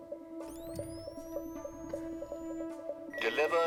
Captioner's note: machine buzzing